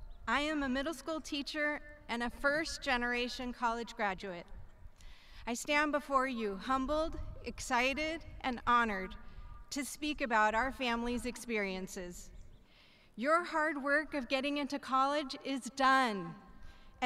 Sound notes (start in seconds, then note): none